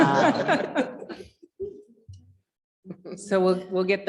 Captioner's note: chuckling